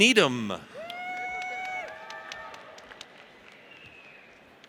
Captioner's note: audience cheers